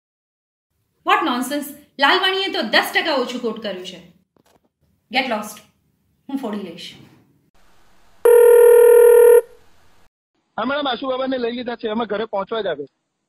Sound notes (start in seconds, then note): 8.2 phone ring